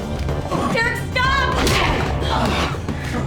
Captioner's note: grunts